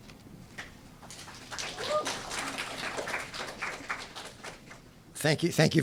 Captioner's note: applause